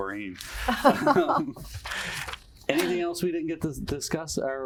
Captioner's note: laugh